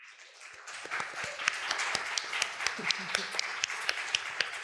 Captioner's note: applause